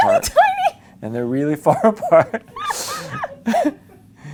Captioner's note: laughs